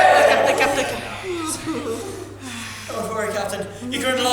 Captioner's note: audience laughs/gasps; audience jeers